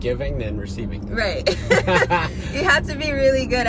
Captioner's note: both chuckling